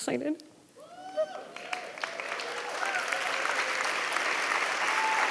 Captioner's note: audience applauding